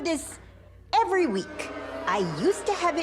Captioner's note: audience boos